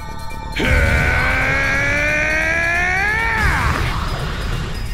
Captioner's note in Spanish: Gritos